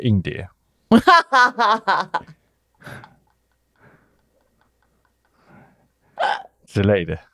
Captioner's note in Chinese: 哈哈哈哈哈